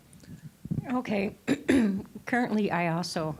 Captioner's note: clearing throat